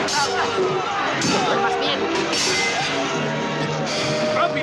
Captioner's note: steel clanking